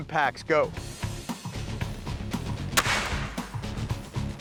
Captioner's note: gun bangs